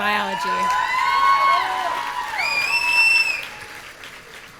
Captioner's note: audience cheering